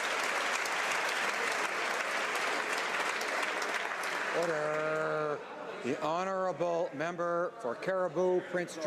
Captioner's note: some Applause